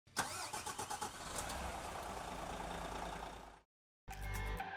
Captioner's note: engine revving up; upbeat music